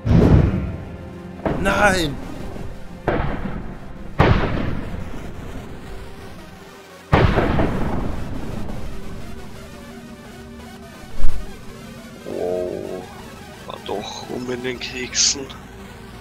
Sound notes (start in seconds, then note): 4.0 thunder